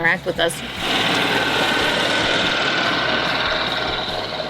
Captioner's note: engine rumbling